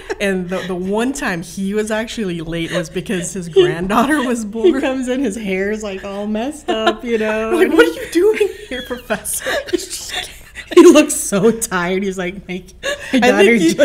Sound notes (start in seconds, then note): 10.3 gasping